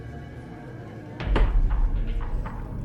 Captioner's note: thumps